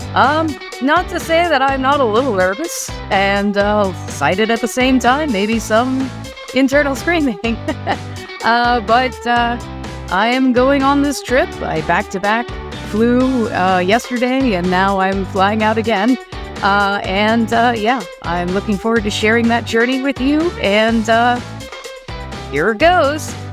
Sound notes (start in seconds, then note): 7.4 nervous Laugh